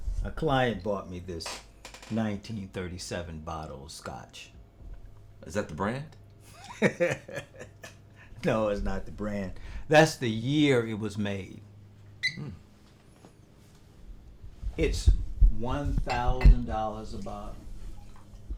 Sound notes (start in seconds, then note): 6.5 laughing